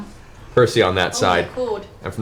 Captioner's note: laughs